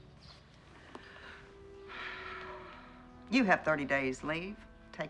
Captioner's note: sighs